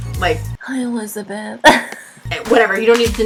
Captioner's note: laughs